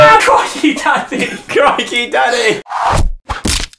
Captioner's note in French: rire